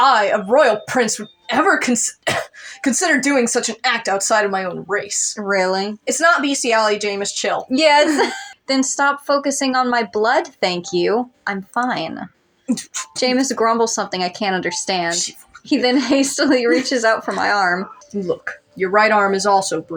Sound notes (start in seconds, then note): 1.8 cough; 8.0 laugh; 8.1 chuckle